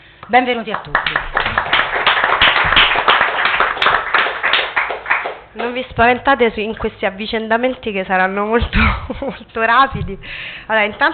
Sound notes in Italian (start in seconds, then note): 0.6 Applauso